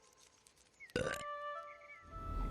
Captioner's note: smug burp